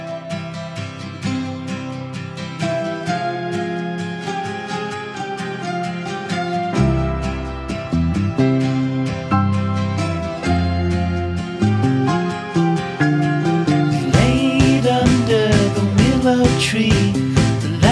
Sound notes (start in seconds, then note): none